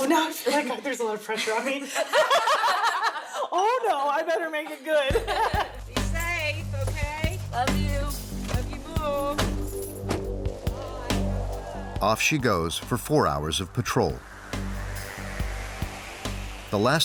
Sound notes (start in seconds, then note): 1.4 laughing